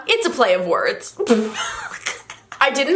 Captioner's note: laughter